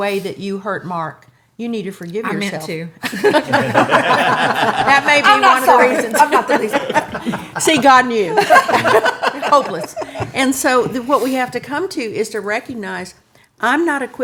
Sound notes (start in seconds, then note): 3.0 laughing